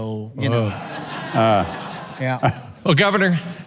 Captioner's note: laughs